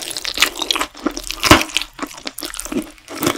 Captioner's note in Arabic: صوت تكسير العظم